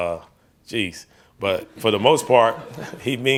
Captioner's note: reporters laughing